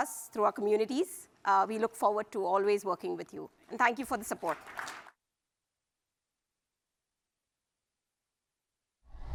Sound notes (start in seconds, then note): 4.2 applause